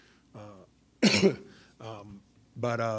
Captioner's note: coughs